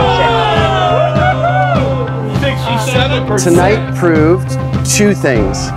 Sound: cheering, wooo hoo, general merriment

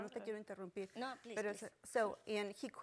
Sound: speaking Spanish

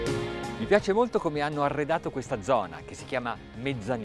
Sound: speaking in foreign language

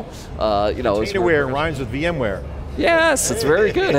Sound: laughs

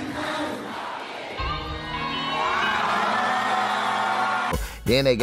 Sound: crowds scream

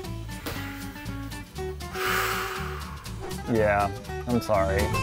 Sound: pat; sighs

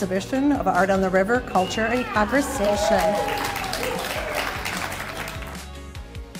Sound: audience applauding

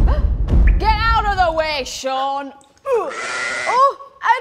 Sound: sheep cries out

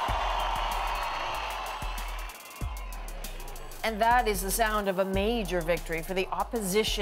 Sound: cheers and Applause

